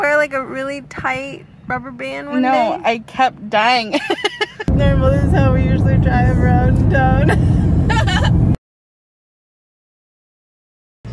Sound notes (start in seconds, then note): 3.9 laughs; 8.0 laughs